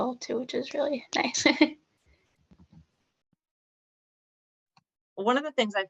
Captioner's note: laughter